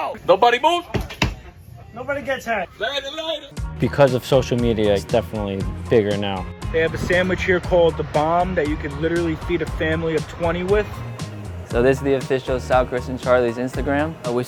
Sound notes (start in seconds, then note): 0.9 thumps